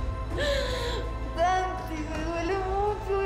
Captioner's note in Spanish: Sollozos